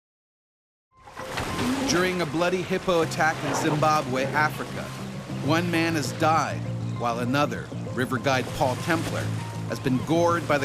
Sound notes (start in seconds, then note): 2.6 voiceover